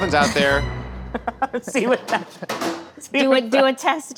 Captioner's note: laughing